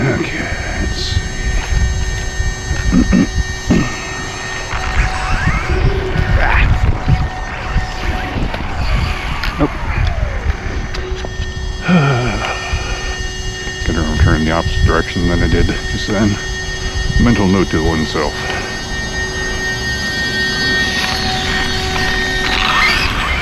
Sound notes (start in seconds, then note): 10.0 sighs; 13.8 electric motor screaming; 20.0 electric motor sounds